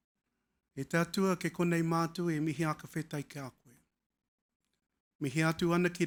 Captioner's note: speaking foreign language